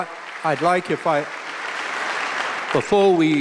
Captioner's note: applause